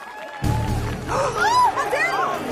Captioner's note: gasping